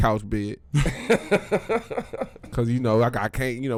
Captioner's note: laughing